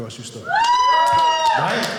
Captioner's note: audience cheering